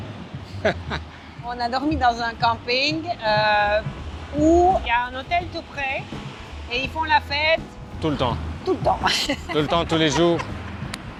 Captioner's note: laughs